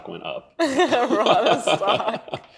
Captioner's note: laughing